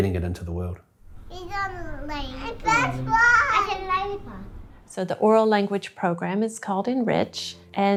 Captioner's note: children talking